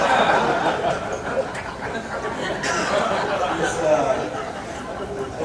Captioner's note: audience laughing